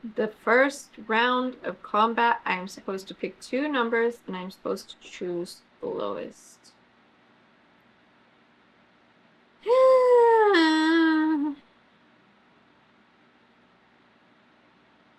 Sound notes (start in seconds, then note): 9.7 sighs